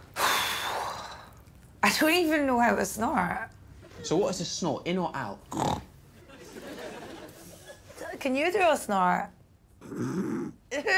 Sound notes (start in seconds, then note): 0.2 sighs; 5.5 snorts; 9.8 Alex snorts